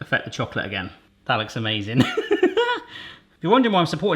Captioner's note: laughs